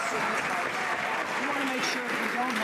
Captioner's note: some Applause